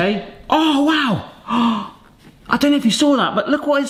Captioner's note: gasps